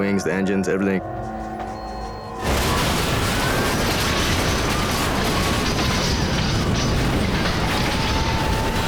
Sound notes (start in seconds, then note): 3.0 cabin rattling